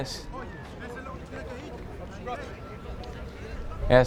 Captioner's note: chuckles; men speaking in foreign language